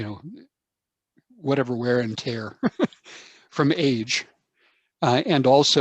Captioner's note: chuckles